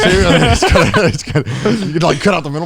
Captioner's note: speakers laughing